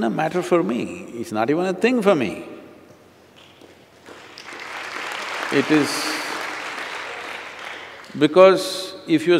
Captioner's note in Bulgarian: аплодисменти